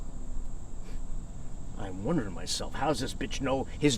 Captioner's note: scoffs